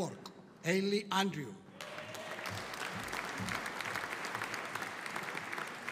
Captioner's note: audience applauding